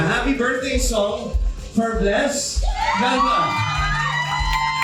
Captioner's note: cheers